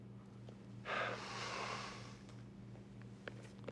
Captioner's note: sighing